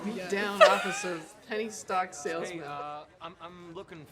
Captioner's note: laughing